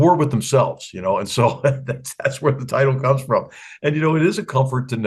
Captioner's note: laugh